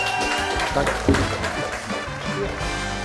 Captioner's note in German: Jubel, Applaus